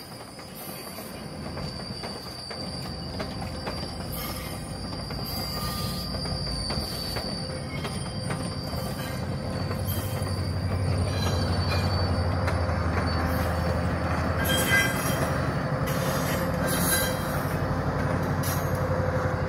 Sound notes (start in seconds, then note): 10.5 MP40 engine rumble; 14.7 engine rumble, wheels squeaking